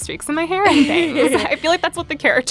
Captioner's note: laughs